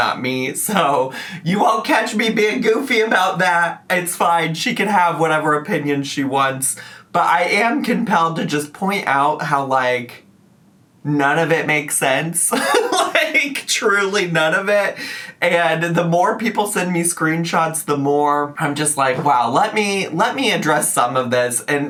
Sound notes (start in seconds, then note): 12.5 laughs